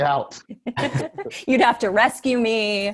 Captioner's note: Ronny & Desi laugh